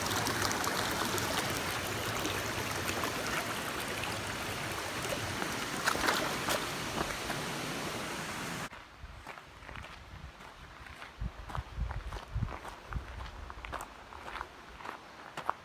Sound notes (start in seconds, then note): 9.7 footsteps on gravel